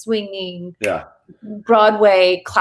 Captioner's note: thumb clicks